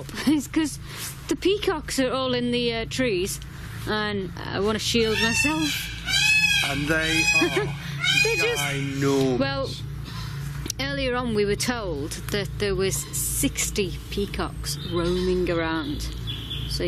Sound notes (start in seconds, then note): 5.0 peacock squawks